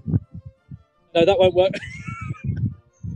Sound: laughing

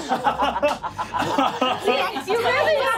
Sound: laughing

